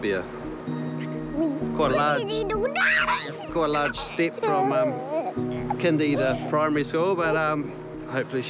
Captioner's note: giggles